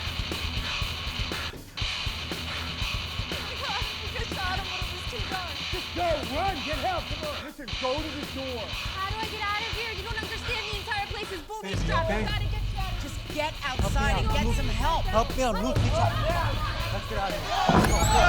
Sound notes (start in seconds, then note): 15.2 chattering